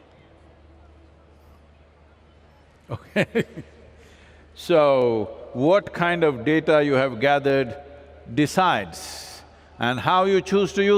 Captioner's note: laughs